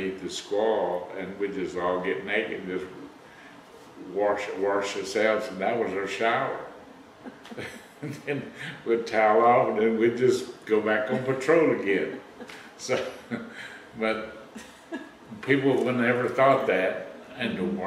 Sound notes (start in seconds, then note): 7.2 laughter